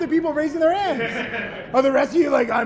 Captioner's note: laughing